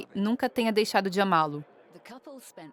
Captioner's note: people chattering